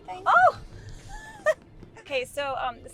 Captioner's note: Heather laughs